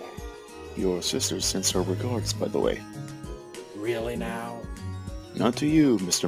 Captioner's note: none